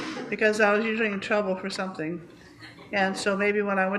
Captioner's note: laughter